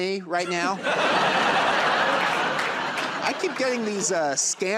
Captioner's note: laughter and applause